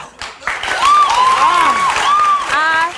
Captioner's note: audience applauds